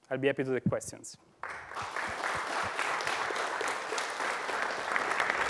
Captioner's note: applause